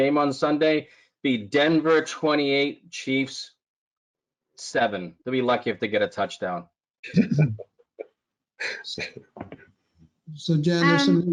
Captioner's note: laughs